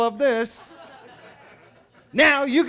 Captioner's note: attendees laughing